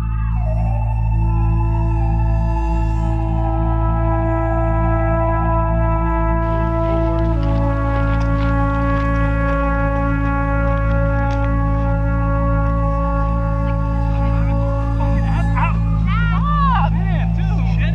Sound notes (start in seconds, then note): 0.1 dreary trumpet music; 8.7 footsteps crunch